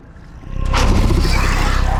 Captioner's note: growl; scream